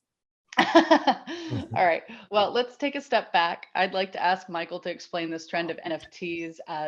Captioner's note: laughs